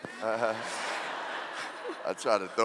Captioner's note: laughing